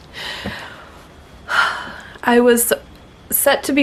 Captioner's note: bemused sign